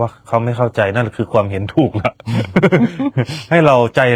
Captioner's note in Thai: เสียงหัวเราะ